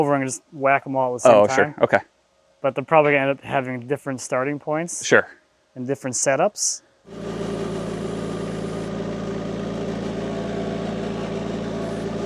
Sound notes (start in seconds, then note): 7.1 motor whirring